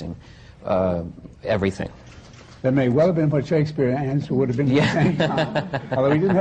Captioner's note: laughter